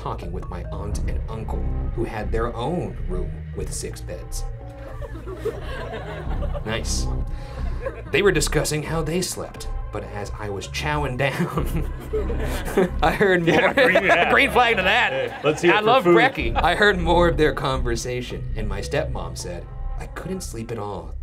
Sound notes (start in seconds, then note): 4.7 audience laughs; 11.3 laughing